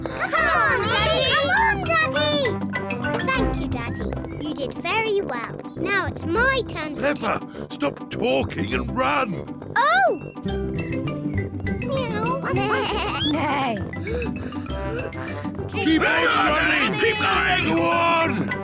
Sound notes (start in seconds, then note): 12.2 animal noises